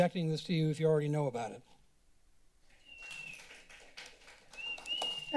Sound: clapping

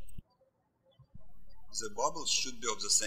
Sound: birds chirping

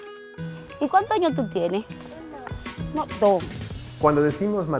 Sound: black coat woman speaks foreign language

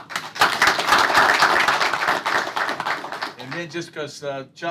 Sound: applause

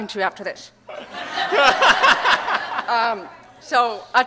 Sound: audience Laughter

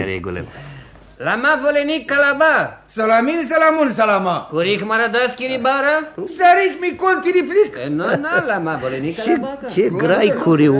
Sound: they pretend to speak in Armenian

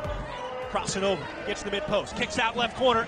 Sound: crowd cheers

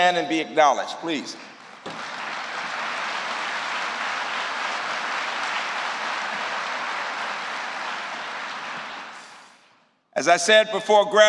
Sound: applause

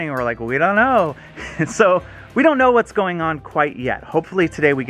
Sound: laughs

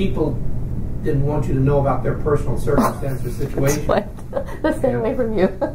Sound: laughs

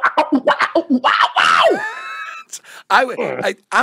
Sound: mimics bass guitar sound

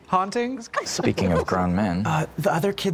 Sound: The Trousers laugh

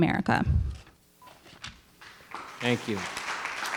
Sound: microphone beeping; paper rustling; attendees applauding

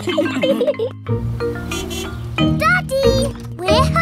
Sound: horn honks

